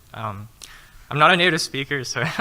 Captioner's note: laughing